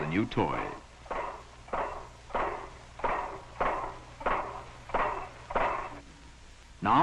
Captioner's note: machine clanking